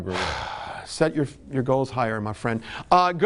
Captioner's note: host sighing